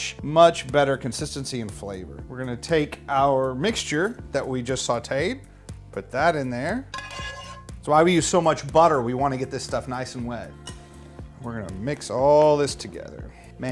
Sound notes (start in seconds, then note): 6.9 spoon scraping